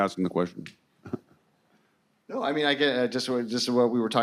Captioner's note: chuckling